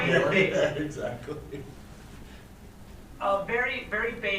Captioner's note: chuckles